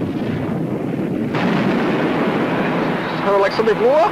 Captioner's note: explosion booming